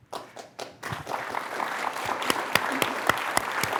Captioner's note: applause